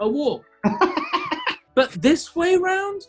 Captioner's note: laughing